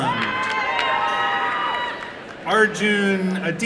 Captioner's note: applause and cheering